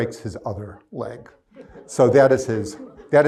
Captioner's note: crowd laughs